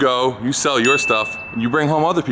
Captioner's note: bell dinging